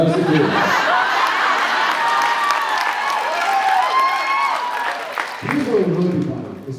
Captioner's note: laughs; laughs, cheers, applauds